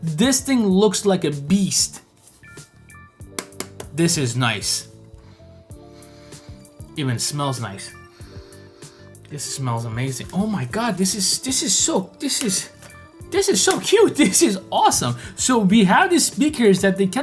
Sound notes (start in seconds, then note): 3.2 taps on speaker; 5.2 sniffs speaker